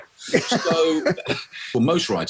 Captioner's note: laughing